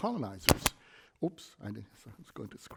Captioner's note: microphone booms